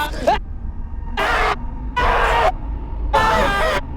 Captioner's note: yelling